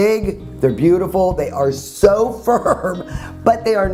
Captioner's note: laughs